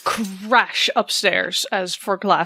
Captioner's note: breaking glass